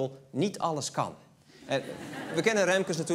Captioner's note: laughter